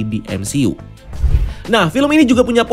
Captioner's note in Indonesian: suara transisi